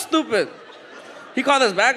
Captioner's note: audience laughs